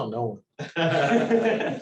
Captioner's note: laughter